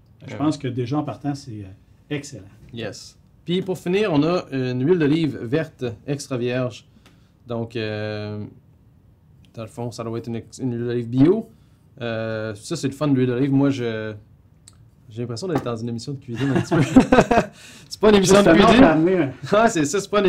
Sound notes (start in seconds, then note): 16.4 laughs